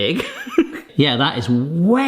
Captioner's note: chuckles